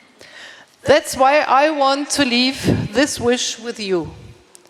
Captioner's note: speaking in English